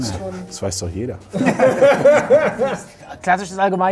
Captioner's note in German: Lachen